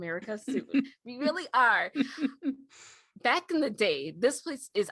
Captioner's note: chuckles